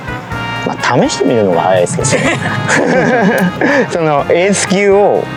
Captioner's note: laughs